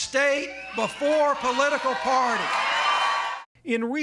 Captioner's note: cheering and applause